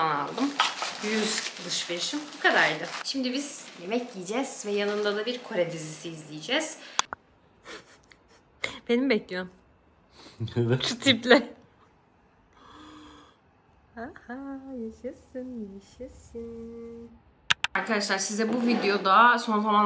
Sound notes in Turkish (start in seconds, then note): 9.7 homurdanır; 12.2 kahkaha